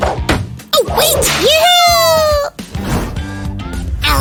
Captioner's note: screaming